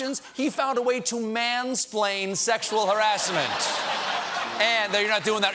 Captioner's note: laughter